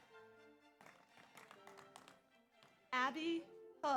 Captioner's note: audience applauds